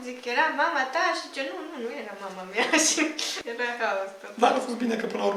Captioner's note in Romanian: haha